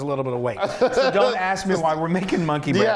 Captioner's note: laughing